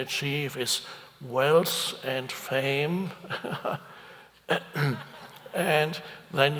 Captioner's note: chuckles